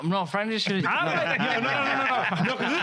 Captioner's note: laughing